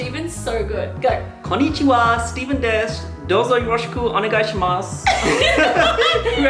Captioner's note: speaking in Japanese; laughter